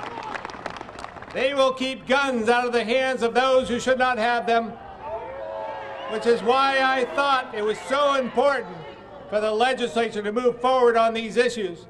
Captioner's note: applause